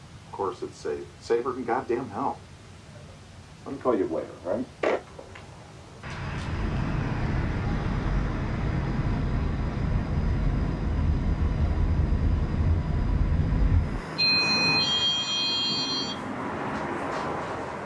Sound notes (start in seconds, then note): 6.8 suspenseful music; 14.0 bell rings